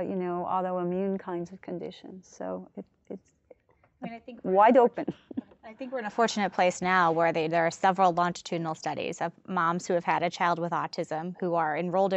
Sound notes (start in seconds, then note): 4.4 laughs